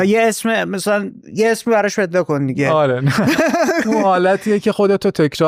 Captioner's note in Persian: خنده